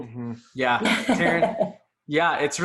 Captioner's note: laughs